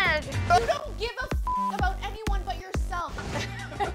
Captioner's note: beep; laughs